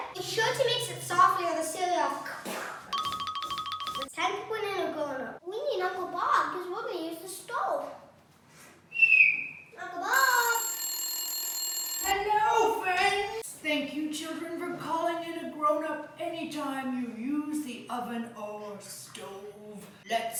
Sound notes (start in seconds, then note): 3.0 light jingling; 8.9 whistling; 10.1 timer ringing